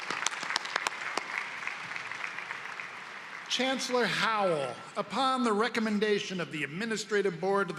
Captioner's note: applause